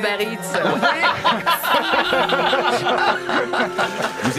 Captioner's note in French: rires